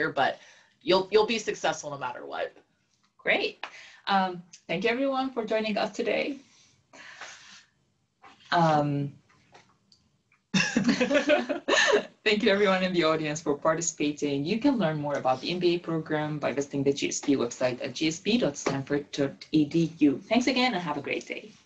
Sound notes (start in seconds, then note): 10.6 laugh